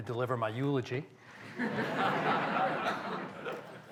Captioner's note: laughter